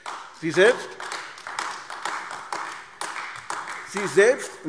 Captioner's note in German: Beifall AfD